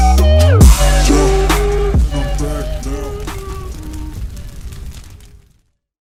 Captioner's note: fire crackles